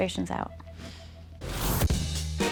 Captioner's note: sighs